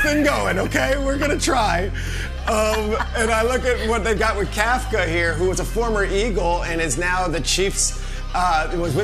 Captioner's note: laughter